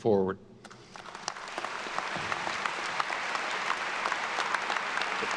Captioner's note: attendees applauding